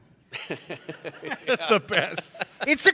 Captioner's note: Ron chuckles